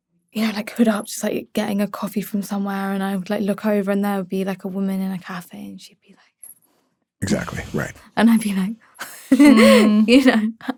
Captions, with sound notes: You know, like hood up, just like getting a coffee from somewhere. And I would like look over and there would be like a woman in a cafe and she'd be like... - Exactly, right. - And I'd be like, (chuckles) you know?